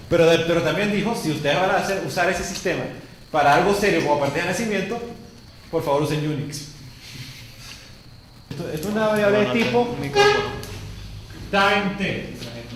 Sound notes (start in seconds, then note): 6.7 chortle; 8.5 mumbling, chair scoots